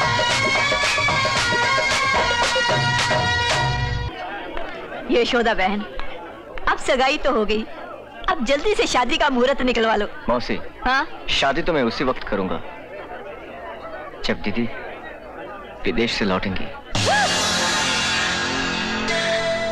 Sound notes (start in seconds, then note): 16.9 gasps